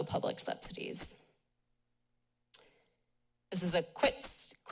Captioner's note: pause